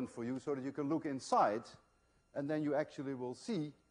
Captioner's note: none